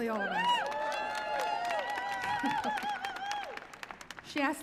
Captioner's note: audience cheering